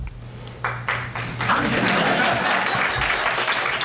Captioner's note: laughter and applause